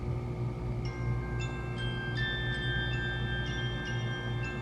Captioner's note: alarm clock ringing